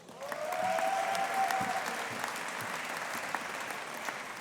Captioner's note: audience applauding